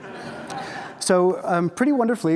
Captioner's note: audience laughs